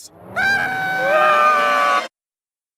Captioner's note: goo screams; balloon screams